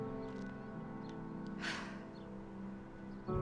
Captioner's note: sighs